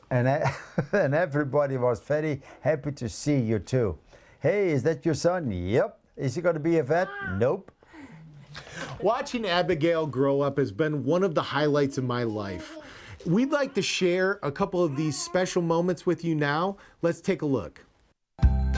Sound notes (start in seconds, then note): 0.4 chuckles; 8.2 chuckles